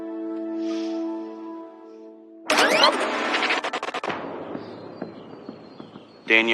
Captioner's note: sniffffles